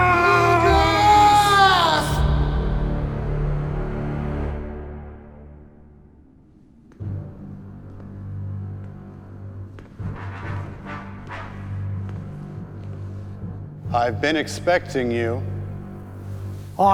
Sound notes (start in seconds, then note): 7.3 tense music; 10.1 shoes clattering